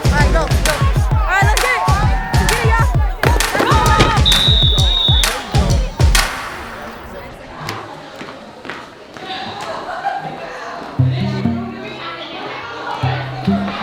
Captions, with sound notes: - All right, go, go. - All right, let's get it. (whistle chirping) (players chattering in background) (light music)